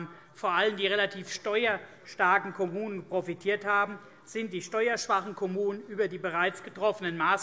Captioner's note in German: none